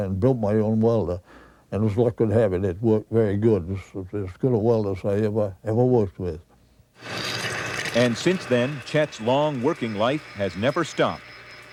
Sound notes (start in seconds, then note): 7.0 metal crackles; 11.5 drill hums